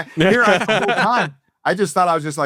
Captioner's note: laughing